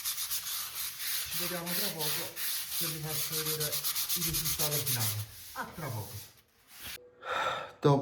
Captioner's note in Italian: sospiri